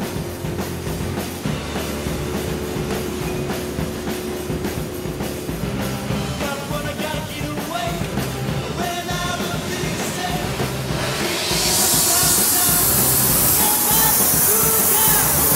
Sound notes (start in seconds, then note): 0.2 upbeat punk rock; 4.2 whoosh